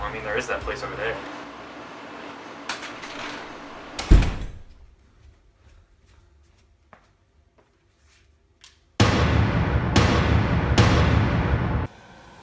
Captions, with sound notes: - Well I mean, there is that place over there. (tape fluttering) (heavy door slamming) (gun shots)